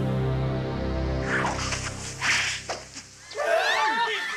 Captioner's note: SFX: battle sounds; SFX: screaming villagers